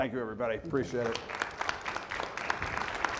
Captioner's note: audience applauding